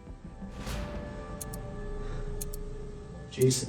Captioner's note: timer ticking